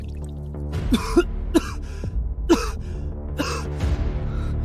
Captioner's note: cough cough cough